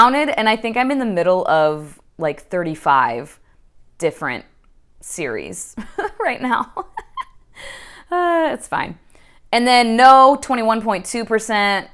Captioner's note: laughs